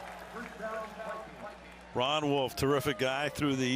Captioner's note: pa announcement